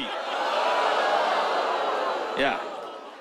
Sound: audience groans

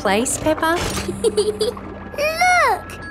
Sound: peppa giggles

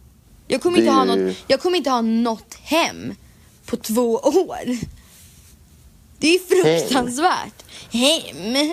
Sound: mocking dialect

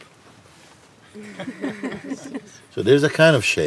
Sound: laughter

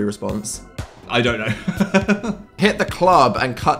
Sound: laughs

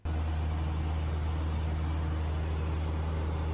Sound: engine noise

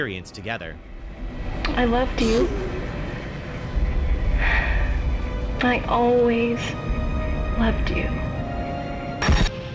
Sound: sighs

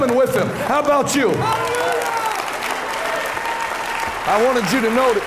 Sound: cheering and applauding

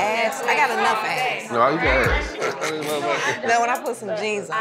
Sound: laughs

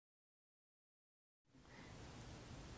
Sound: quiet

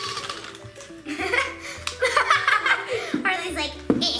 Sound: laughs

